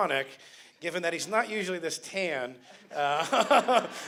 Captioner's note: laughter